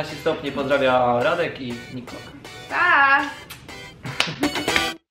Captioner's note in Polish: buziaki